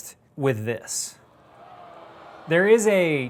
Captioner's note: audience groaning